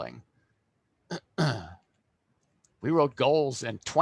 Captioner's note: throat clearing